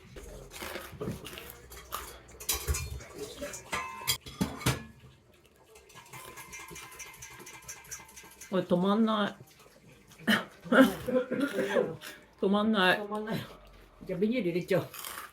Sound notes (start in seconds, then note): 10.2 haha